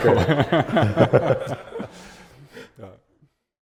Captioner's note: audience laughing